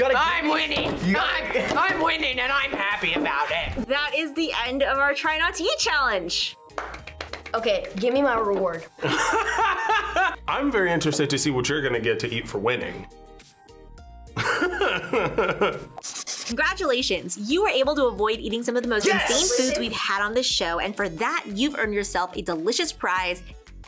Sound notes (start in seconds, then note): 6.7 claps; 9.0 laughs; 14.4 laughs